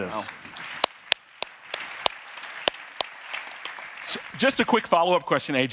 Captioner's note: audience applauding